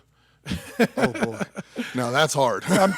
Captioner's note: chuckles; laughs